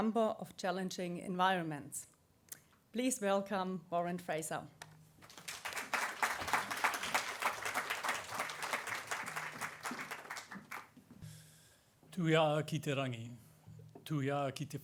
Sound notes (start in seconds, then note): 9.1 applause